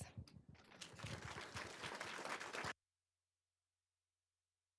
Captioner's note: applause